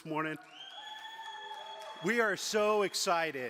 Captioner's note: audience applauds